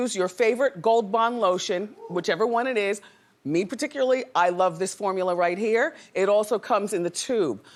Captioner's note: none